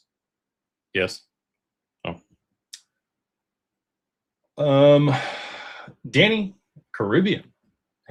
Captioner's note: sighs and gasps